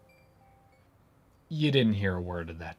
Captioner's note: beat